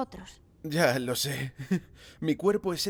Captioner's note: laughs ruefully